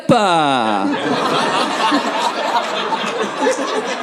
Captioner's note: audience laughing